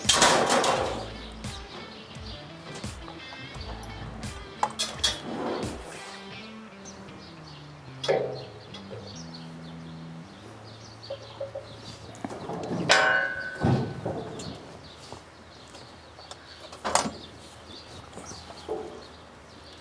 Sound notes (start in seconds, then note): 0.0 metal clanking; 0.0 upbeat music; 8.7 birds chirping; 8.7 metal clanking